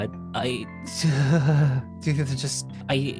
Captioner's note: laughs